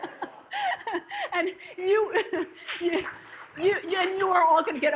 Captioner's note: audience laughs; laughs; audience claps